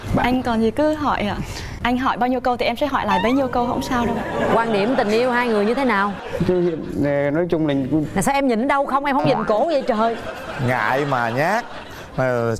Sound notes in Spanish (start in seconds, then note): 4.0 risas